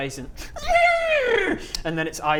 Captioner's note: neerrrrrrrrrrrrrghhhh